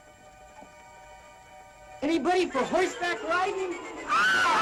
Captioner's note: all yelling